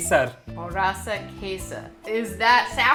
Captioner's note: repeating Hindi, annunciating; repeating Hindi